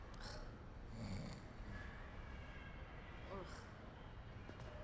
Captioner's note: snoring softly